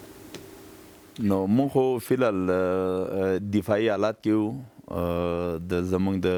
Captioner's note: speaking in a foreign language